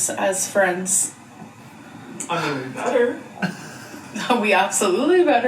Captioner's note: chuckles